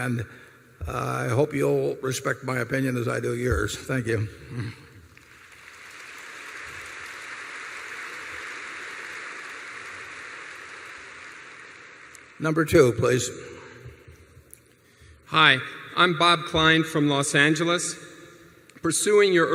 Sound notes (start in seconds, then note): 5.0 applause